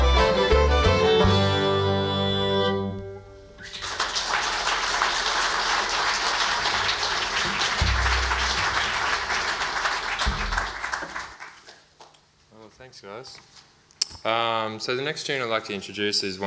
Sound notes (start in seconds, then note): 3.6 audience applauds